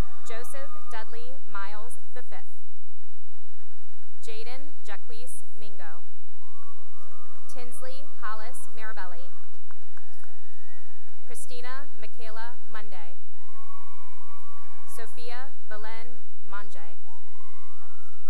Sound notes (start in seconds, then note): 0.0 cheering and applause; 2.9 applause; 6.4 cheering and applause; 9.4 cheering and applause; 13.3 cheering; 17.1 cheering